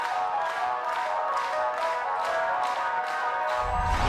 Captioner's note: crowd clapping